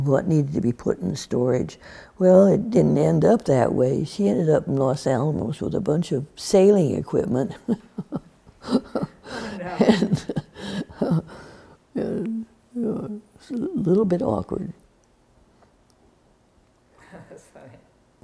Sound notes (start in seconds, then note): 8.5 laughs